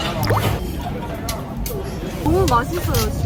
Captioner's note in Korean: 벌컥벌컥